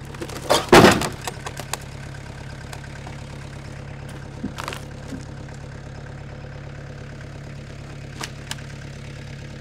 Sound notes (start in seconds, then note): 0.1 slab clattering; 3.0 machine rumbling